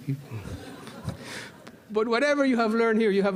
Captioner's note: laughter